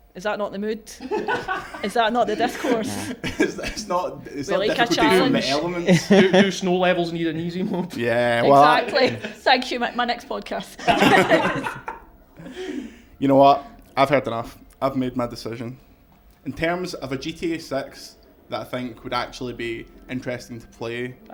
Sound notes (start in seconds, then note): 10.7 laughter